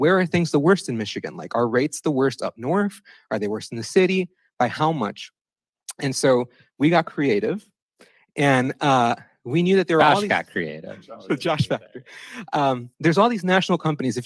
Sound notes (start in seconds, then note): 10.9 chuckles